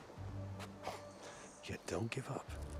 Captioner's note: laugh